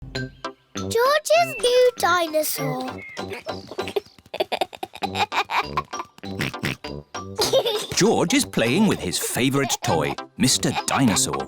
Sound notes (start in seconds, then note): 3.2 giggles; 6.3 oinks